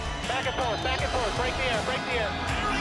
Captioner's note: cheers and announcing